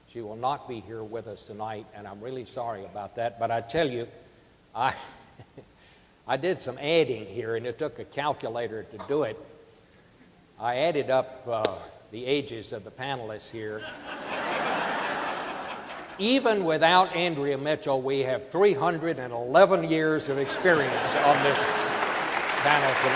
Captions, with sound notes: she will not be here with us tonight, and I'm really sorry about that but I tell you, I (laughs) I did some adding here, and it took a calculator to do it. I added up the ages of the panelists here -- (audience laughing) Even without Andrea Mitchell, we have 311 years of experience on this panel tonight.